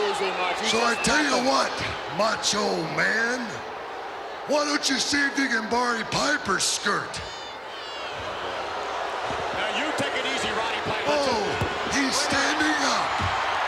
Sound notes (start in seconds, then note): 8.6 crowd booing